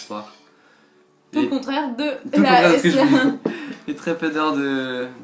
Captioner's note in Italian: ridere